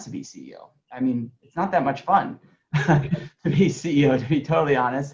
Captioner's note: laughs